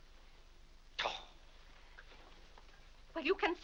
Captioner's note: Mr. Day huffs